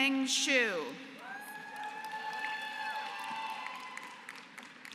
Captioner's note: applause